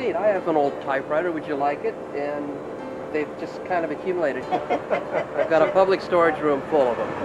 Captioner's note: laughing